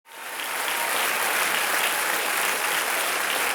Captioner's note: applause